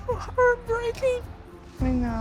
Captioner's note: crying